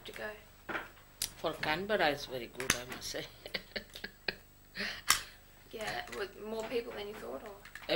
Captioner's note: shri mataji laughs